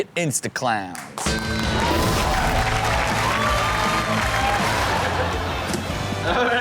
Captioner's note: audience cheer and applaud; upbeat music